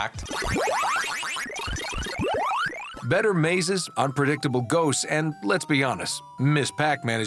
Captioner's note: arcade sounds